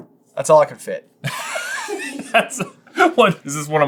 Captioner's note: cracking up